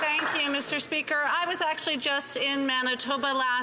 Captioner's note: some Applause